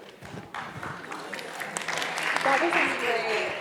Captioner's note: applause